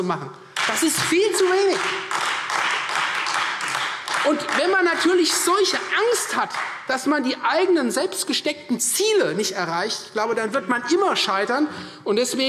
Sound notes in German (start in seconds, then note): 0.5 Beifall Freie Demokraten